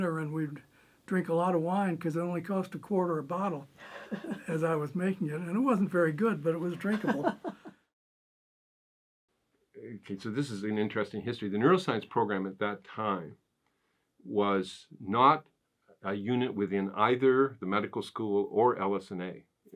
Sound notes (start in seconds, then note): 6.6 interviewer laughing